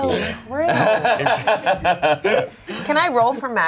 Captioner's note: laughs